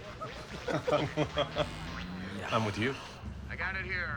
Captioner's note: laughs